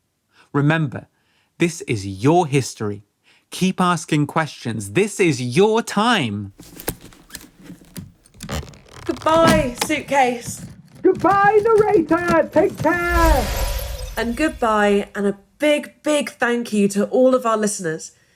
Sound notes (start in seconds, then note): 6.6 sounds of a suitcase fastening; 13.0 time travel whoosh